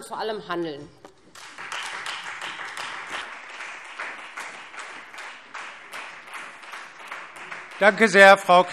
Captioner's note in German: Beifall Freie Demokraten